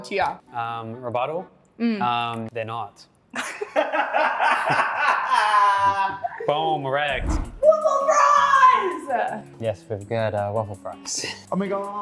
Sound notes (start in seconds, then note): 3.4 participants laugh loudly